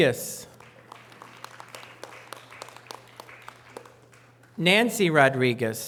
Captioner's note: audience applause